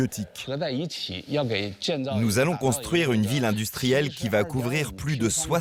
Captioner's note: speaking foreign language